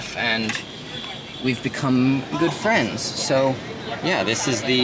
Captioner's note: none